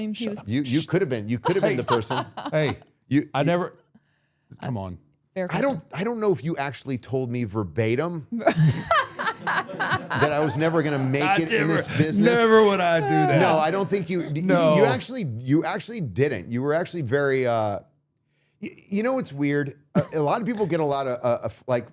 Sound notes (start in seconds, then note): 1.2 podcaster laughing; 8.5 everyone laughing